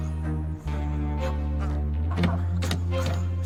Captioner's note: grunting